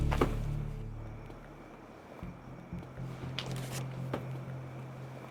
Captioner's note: crickets chirping